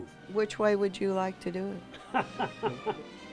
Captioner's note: laughing